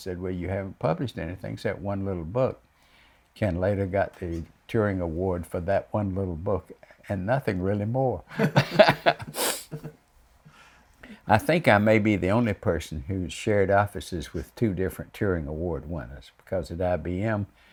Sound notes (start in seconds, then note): 8.3 laughs